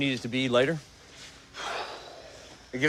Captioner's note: exhales sharply